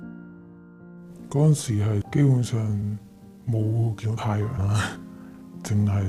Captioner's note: voice processed